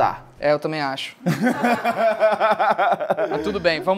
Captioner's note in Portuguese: risadas